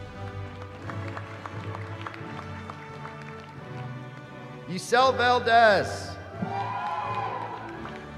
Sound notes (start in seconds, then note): 0.0 applause; 6.2 cheering